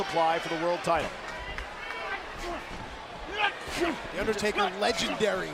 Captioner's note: applause